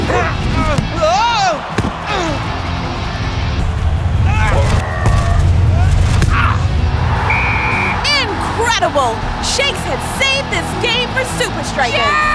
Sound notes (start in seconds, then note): 0.7 Shakes exclaims; 4.3 grunts; 7.2 whistle blows